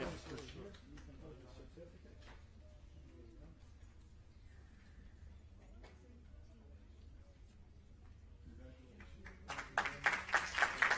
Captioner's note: applause